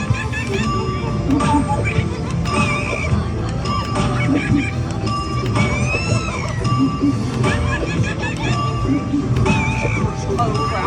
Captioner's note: monkeys chattering